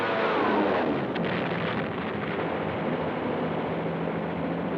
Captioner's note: bombs explode